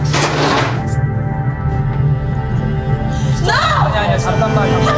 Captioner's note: chair clatters